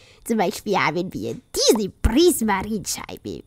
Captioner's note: none